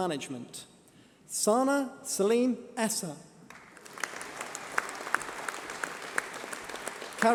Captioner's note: applause